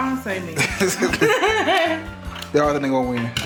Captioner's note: both parents laughing